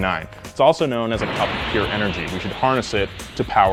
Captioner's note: wind whooshes